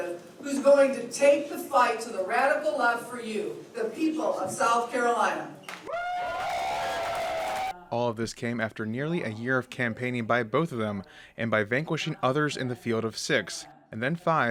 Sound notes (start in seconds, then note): 5.7 applause